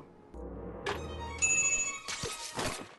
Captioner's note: bing sound